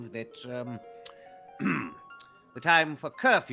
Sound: clearing throat

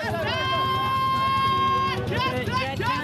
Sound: shouting

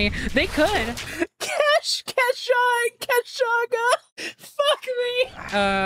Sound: laughing

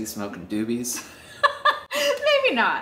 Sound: laughs

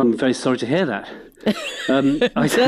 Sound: laughs

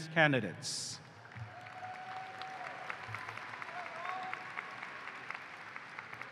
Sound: applause

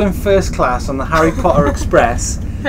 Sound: laughing

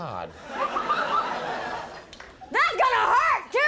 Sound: audience laughing

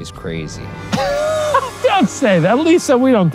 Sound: laughs

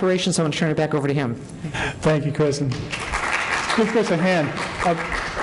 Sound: applause

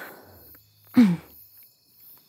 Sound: she clears her throat, trying to catch her breath

